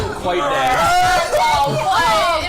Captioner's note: gasps